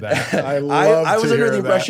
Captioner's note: laughs